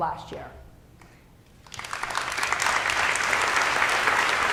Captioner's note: applause